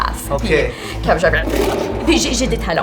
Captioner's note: roar